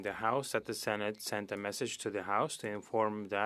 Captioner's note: speaking French